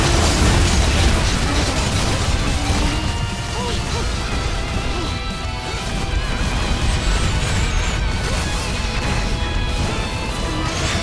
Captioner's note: tornado